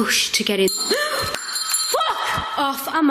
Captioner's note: gasps; bell rings